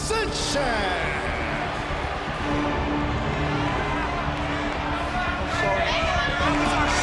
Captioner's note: crowd chatter